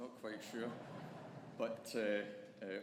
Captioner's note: audience laughing